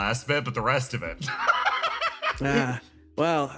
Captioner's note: laugh